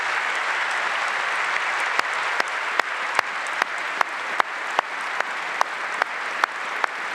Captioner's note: applause